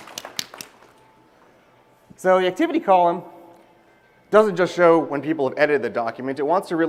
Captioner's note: applause